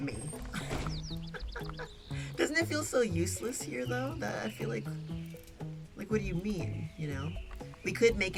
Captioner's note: laughs